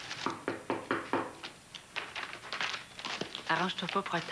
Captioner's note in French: On frappe à la porte